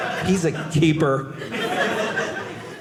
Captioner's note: audience laughing